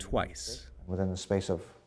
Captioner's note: through translator